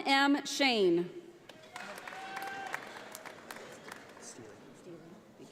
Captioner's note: audience applauding